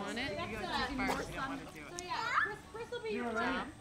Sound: chatter

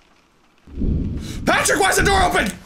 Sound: thunder

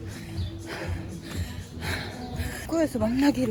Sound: breathing loudly

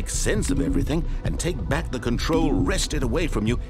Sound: low beep

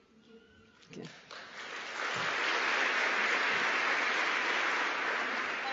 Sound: applause

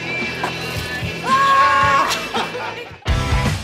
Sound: yelling, chuckling

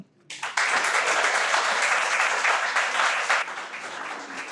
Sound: everyone applauds

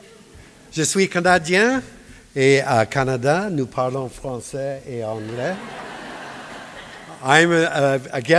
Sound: speaking japanese; speaking french

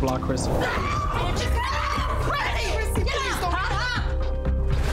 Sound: women screaming

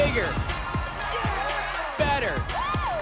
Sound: cheering

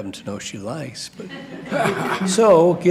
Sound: laughter

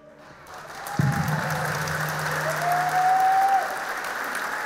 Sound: audience applauding

